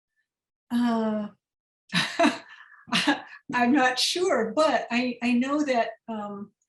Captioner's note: laughter